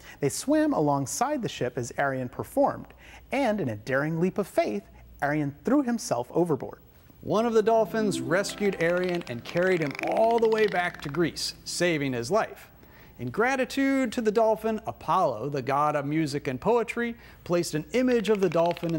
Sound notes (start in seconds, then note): 7.8 harp music; 8.5 dolphin noise